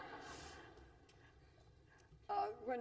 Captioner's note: laughter